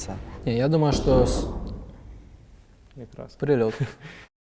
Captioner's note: sound of explosion